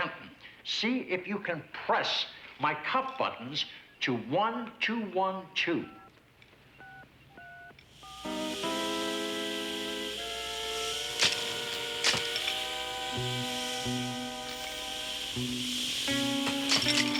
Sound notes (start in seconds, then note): 5.8 beeps; 8.1 swooshing; 8.2 tense music